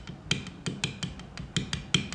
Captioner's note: gentle clattering